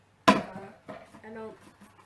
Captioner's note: thud